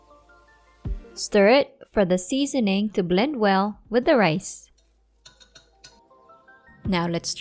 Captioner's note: chopsticks thud